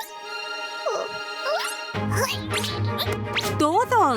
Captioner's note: caterpillar noises